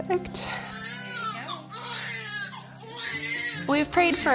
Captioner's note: baby crying